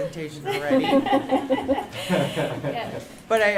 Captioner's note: laughter